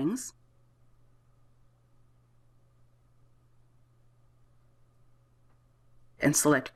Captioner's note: silence